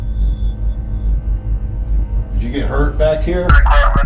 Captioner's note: ghostly voice